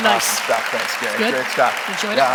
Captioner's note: applause